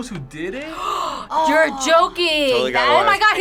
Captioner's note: gasps